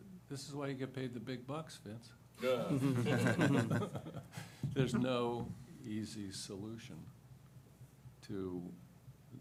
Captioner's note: laughter